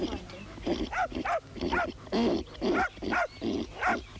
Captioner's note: dog barking